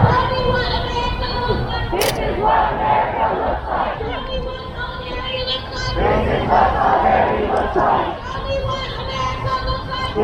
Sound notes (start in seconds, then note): 2.0 crowd; 6.2 crowd